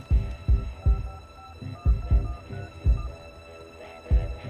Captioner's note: buttons beeping